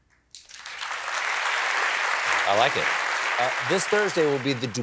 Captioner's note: applause